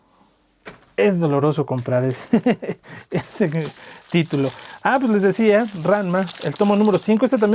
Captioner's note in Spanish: risas